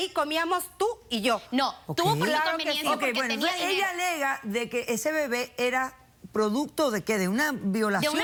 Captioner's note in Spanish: Hablan al unísono